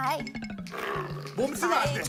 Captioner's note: rawr